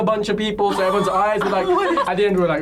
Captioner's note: laughs